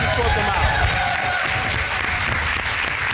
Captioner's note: applause